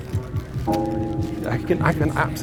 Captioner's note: gong rings